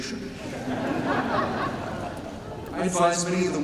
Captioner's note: laughter